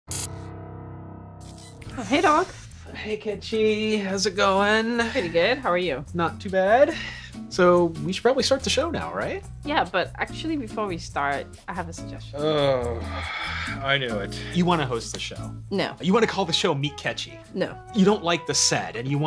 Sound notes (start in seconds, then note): 12.3 sighing